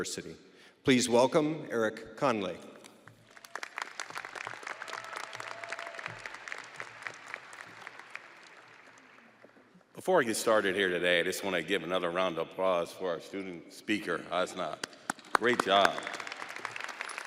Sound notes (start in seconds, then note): 6.6 audience applauding